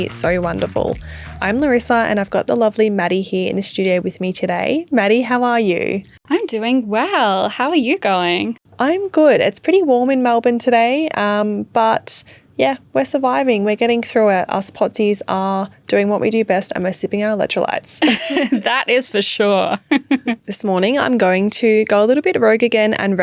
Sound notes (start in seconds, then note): 18.0 both laughing; 19.8 laughing